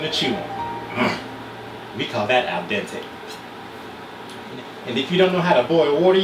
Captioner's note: grunt